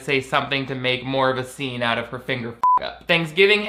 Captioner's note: beep